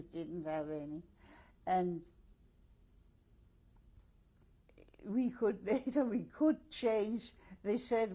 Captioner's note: pauses for 3 seconds